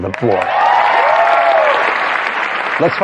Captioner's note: cheering and applause